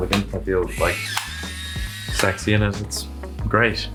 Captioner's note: camera clicks